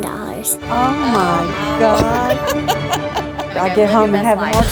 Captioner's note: recipient laughs